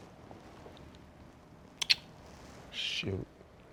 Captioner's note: kisses